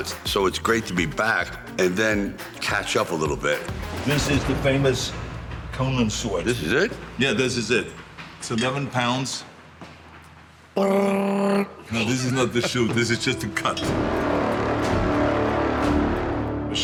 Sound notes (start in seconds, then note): 10.8 Sylvester vocalizing; 14.3 dramatic music